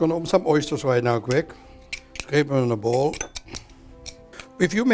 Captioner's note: tapping sound